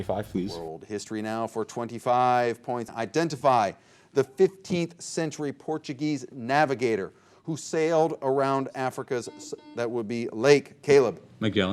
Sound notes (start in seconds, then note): 9.2 buzzer beeping